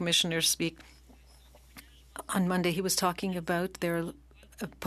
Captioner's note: speaking French